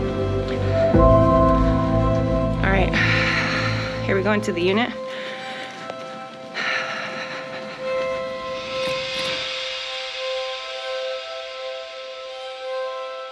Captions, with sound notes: (light music) All right, here we go into the unit. (sighs)